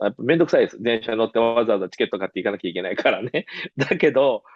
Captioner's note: laughs